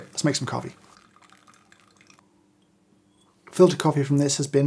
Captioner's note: hot water pouring